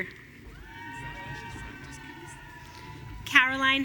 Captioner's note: audience cheering